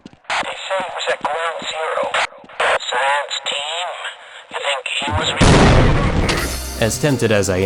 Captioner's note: boom